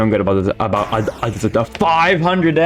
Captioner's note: Nightmare Fredbear Explodes